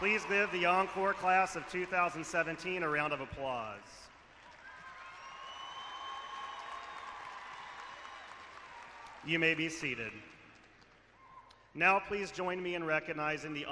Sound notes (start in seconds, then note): 0.0 cheering; 4.1 clapping and cheering